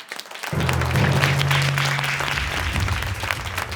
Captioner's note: audience applauding